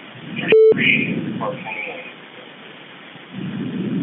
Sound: recording beeping; recording hissing

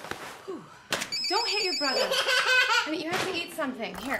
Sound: laughter

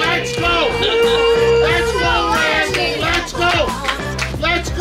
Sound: cheering

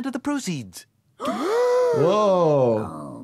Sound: Homer, Marge and Bart gasping

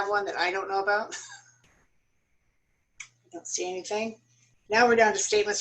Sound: laughter

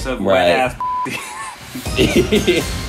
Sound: laughing

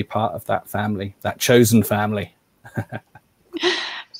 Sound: chuckles

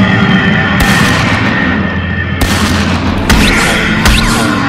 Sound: Elephant Rifle shooting

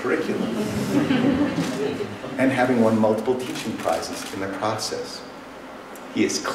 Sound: laughter

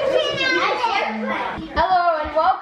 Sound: kid yelling

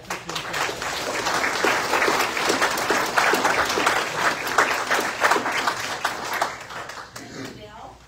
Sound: audience applauds

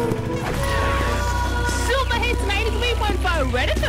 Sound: radio playing

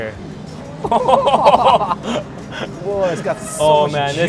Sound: laughing

